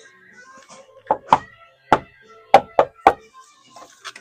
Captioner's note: knocking